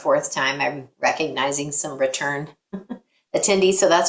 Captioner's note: both chuckle